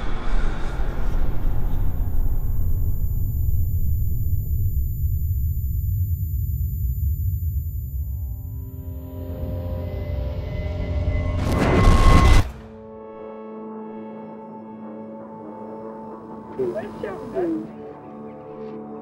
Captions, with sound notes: (ominous music) (fire roaring) - Where'd Sheldon go?